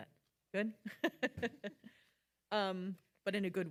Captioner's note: laughing